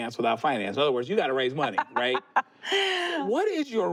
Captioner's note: laughs